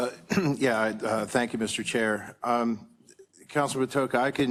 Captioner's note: cough